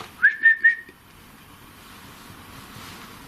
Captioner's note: whistles